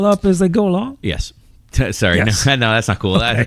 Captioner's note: uh